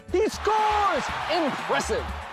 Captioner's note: crowd cheers